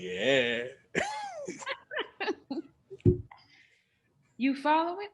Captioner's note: both laughing